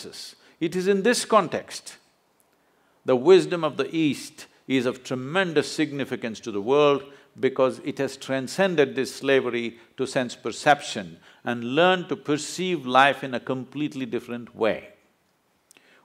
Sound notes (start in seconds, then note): none